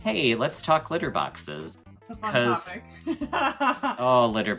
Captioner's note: laughs